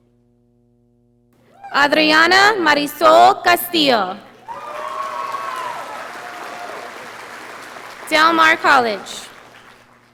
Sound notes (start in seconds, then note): 4.3 audience applauding